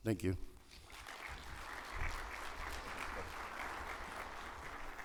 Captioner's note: audience applauding